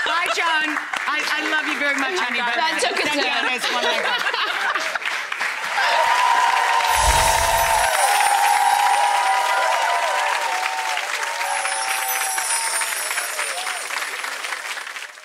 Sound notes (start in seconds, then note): 3.6 all laughing; 5.6 audience cheering; 5.9 audience laughing